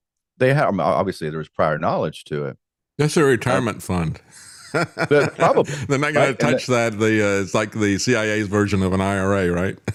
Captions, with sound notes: They have obviously there was prior knowledge to it. That's a retirement fund. (Laughs) Probably. They're not gonna touch that, it's like the CIA's version of an IRA, right?